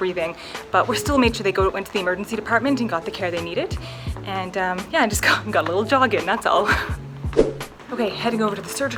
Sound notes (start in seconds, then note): 6.2 laughs